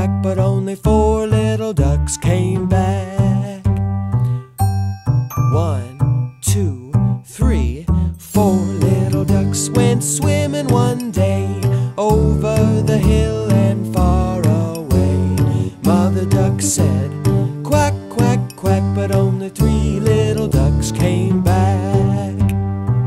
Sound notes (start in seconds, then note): 3.0 jazzy pop music; 4.5 chimes ringing